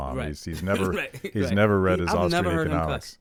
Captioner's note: laughs